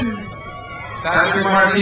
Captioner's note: crowd cheers